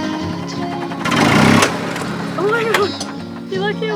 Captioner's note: motor revving